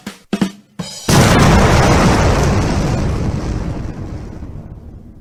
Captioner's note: bomb blasting